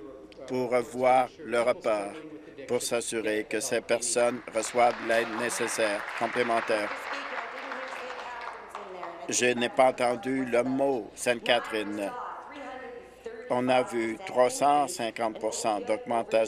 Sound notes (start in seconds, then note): 8.2 applause